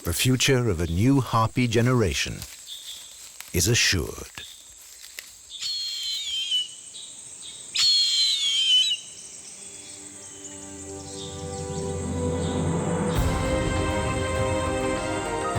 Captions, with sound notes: The future of a new harpy generation is assured. (eagle screeching) (bright instrumental music)